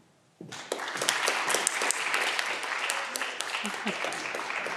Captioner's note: audience clapping